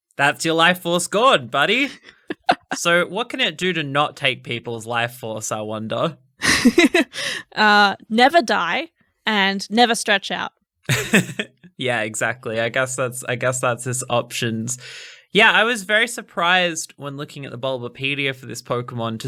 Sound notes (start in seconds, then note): 7.2 laughing